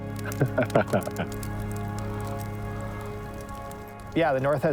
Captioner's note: fire sizzling; laughs